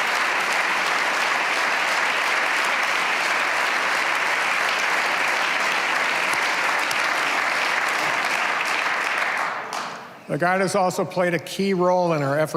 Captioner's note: applause